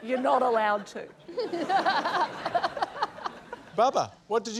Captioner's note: laughter